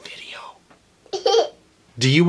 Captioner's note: laughter